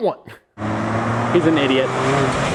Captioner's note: engine roaring